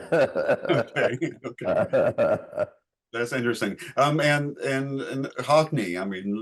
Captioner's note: laughing